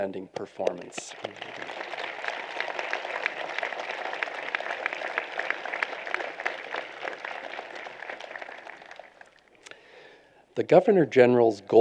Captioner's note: applause